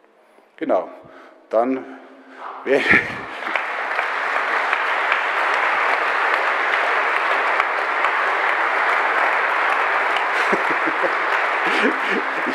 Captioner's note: general applause